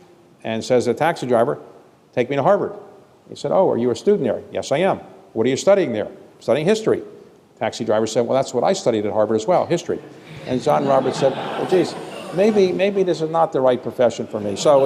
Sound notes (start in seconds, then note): 10.2 laughter